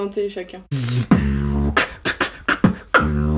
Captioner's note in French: beatbox